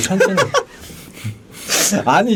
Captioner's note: laughing